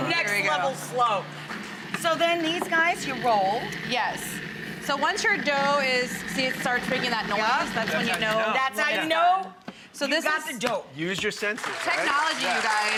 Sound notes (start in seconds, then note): 4.8 grinding slows and thumping starts; 11.4 applause